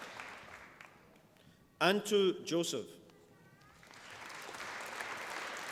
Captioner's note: applause